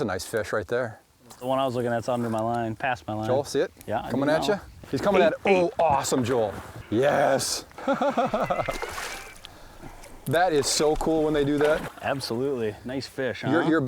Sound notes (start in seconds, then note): 7.7 laughing